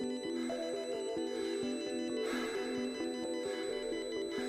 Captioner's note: heavy breathing